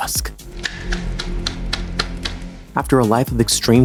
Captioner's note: clapping quietly